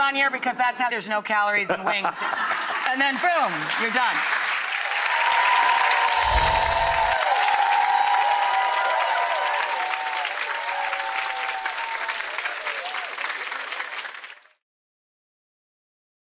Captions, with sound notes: because that's how there's no calories in wings, and then, boom, you're done. (audience cheering)